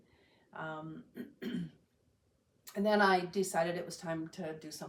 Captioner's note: clears throat